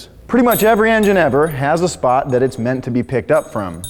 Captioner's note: none